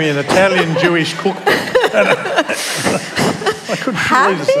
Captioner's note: laughter